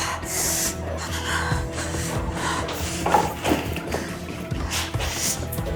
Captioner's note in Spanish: Quejido